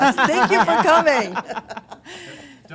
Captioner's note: laughter